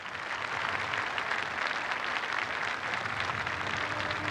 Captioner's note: applause